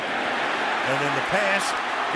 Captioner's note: cheering